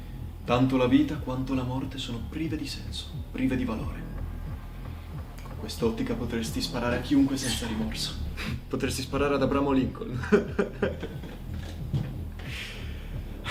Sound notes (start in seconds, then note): 10.1 laughter